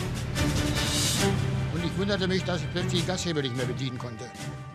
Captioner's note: speaking german